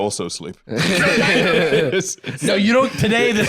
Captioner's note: both laughing